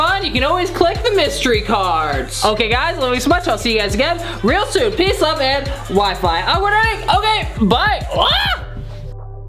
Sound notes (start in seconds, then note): 8.1 screams